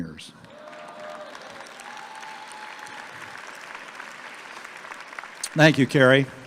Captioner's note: audience clapping and cheering